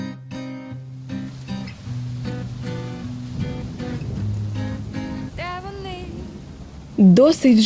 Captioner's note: rain